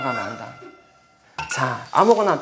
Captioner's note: in tears